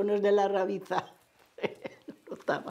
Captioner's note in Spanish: Ríe